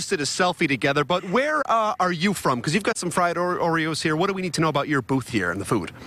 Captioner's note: laughter